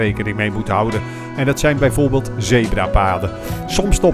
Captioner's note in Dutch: Voiceover